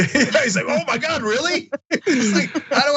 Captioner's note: laugh